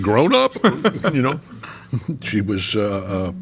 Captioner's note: laughing